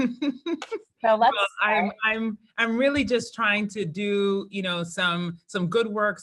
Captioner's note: laugh